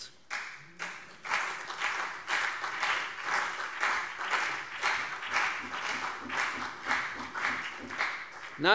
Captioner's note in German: Beifall CDU und BÜNDNIS 90/DIE GRÜNEN